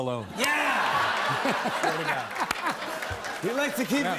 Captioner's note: laughter